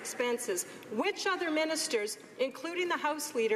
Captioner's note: some Applause